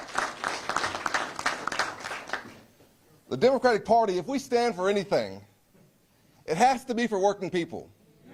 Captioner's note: applause